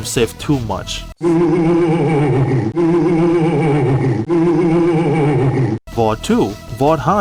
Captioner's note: creepy ass laugh x3